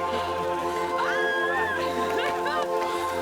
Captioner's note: female scream